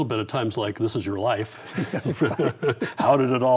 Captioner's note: both laugh